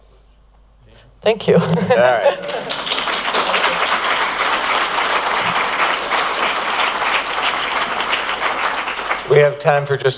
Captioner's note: applause